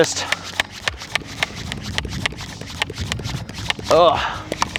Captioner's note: sprayer pumping